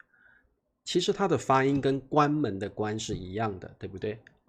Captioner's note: closing a door